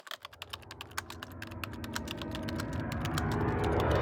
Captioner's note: typing